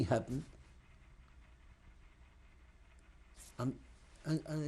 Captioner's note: pauses for 3 seconds